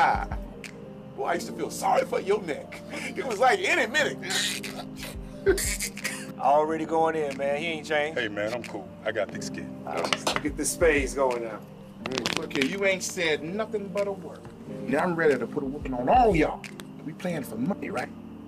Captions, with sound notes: Boy, I used to feel sorry for yo neck. It was like any minute (rope breaking sound) (chuckles). - Already goin' in man, he ain't changed. - Hey man, I'm cool, I got to get thick skin. - Get this Spades goin' now. - Look here, you ain't said nothin' but a word, now I'm ready to put in a whooping on all y'all. We playing for money, right?